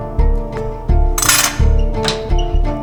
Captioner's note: metallic clanking